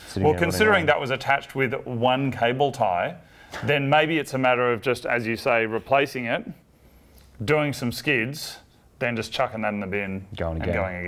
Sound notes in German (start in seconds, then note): none